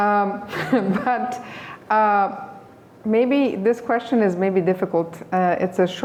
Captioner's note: laughs